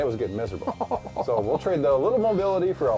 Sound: laughs

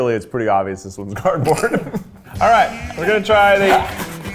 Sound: laughing

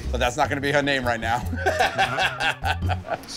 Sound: laughs

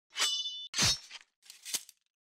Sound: sword slashing

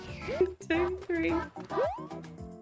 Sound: laughs

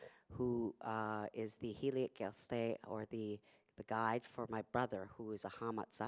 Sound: non-english speech

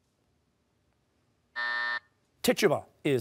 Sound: buzzer

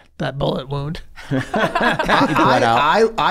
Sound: all laughing

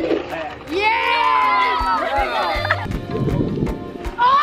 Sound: cheering

